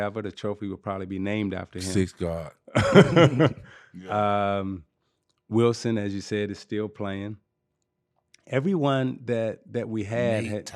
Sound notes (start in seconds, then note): 2.7 laughing